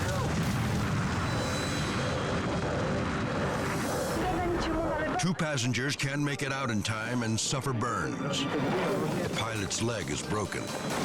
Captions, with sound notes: (flames crackling) Two passengers can 't make it out in time and suffer burns. The pilot's leg is broken.